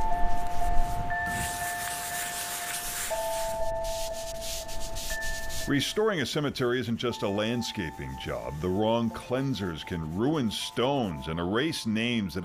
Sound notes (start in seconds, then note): 0.1 gentle music; 4.6 brushes scrubbing